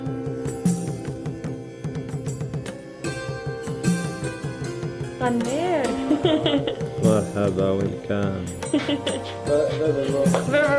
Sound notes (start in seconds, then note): 5.6 speaking foreign language